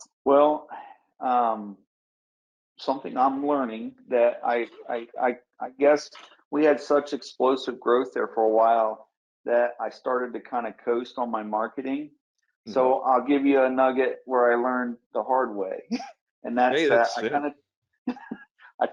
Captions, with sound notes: - Well, something I'm learning that I guess, we had such explosive growth there for a while that I started to kind of coast on my marketing. So, I'll give you a nugget where I learned the hard way.(chuckles) - Yes sir. - And that's I kinda,